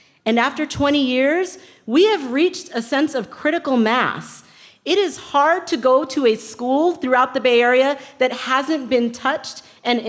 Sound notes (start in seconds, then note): none